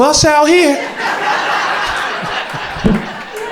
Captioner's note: crowd laughter